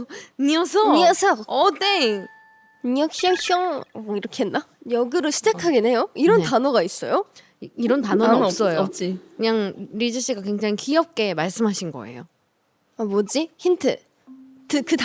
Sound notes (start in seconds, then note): 3.1 A flood of alien languages